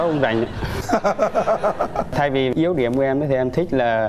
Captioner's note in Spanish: risas